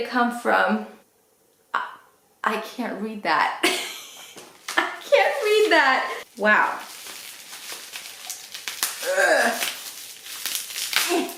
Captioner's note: laughs